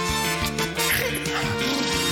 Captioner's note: blubbers lips; snorts